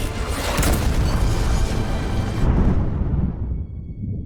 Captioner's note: aircraft exploding